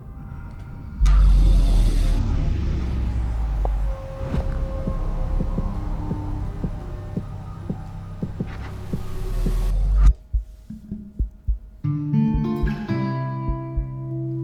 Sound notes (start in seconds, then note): 1.0 distorted sound; 7.9 distorted sound ends